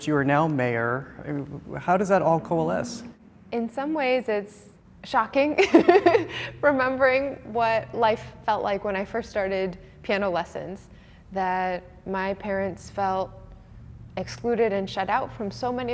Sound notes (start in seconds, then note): 5.9 laughing